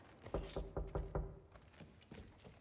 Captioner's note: knocks